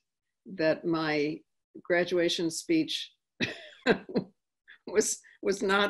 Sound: laughing

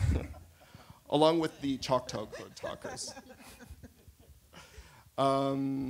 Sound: laughter; laughter

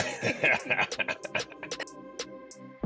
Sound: laughter

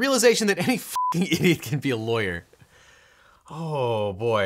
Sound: beep

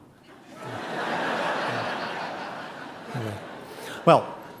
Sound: audience laughing

